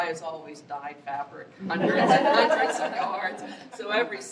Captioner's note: laughter